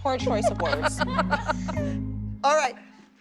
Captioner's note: laughter